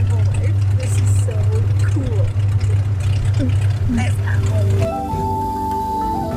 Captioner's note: speaks foreign language; tribal music